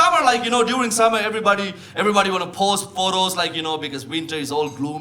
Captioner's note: none